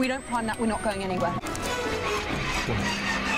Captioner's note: Millennium Falcon failing noises